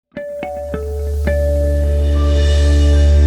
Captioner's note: logo chiming